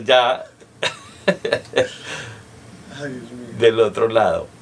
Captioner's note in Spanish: risas